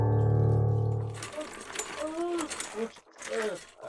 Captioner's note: gasping